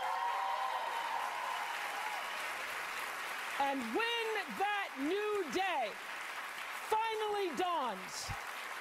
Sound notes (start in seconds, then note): 5.2 applause